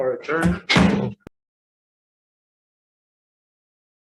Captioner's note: gavel strikes